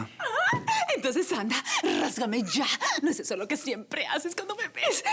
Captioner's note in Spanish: Risas